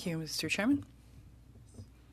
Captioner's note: speaking French